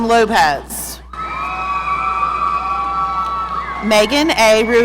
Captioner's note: audience cheering